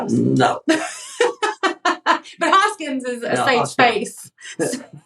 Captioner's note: laugh